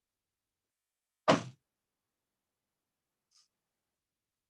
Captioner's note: thud